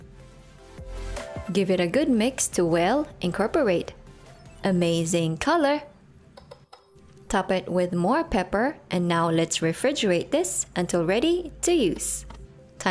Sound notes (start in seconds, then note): 6.3 spoon clanking on bowl